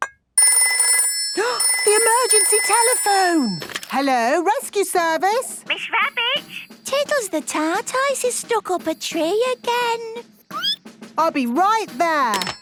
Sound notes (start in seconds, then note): 0.4 phone ringing, gasp; 10.1 squeaking